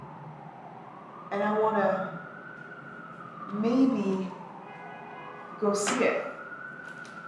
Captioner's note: siren blaring